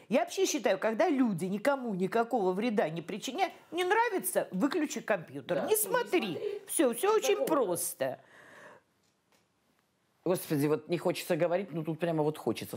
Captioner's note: speaking russian